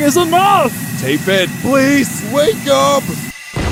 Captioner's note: thick accent